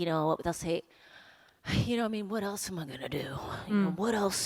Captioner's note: gruff voice